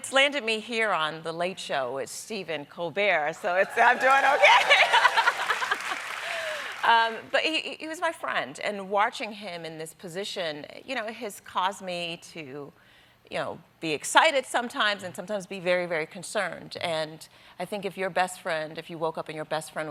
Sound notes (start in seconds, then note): 3.6 applause